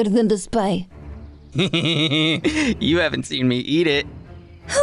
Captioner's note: laughing